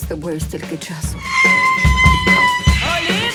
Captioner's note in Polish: krzyczy panicznie